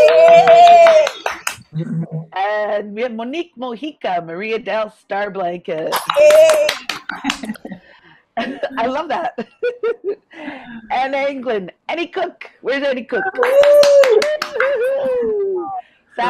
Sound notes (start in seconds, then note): 0.0 all cheering; 6.0 all cheering; 8.4 laughs; 13.2 all cheering